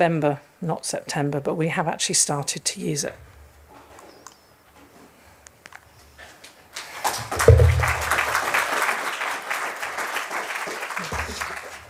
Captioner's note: round of applause